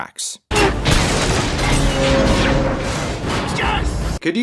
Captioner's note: cannon blast, shattering stone, creaking metal